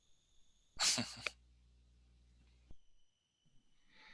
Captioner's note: laughs